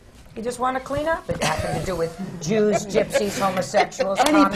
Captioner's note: laughter